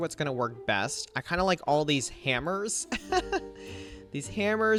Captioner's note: laughs